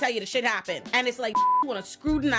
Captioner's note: beep